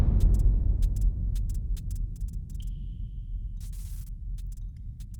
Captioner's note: electricity sparks